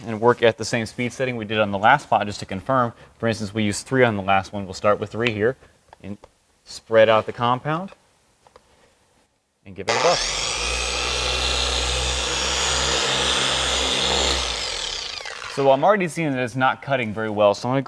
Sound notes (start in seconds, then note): 9.9 machine whirring